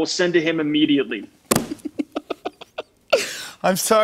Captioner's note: laughs